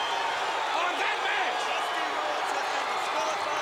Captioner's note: crowd chatter